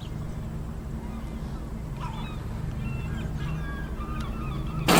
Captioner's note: gulls squawking continues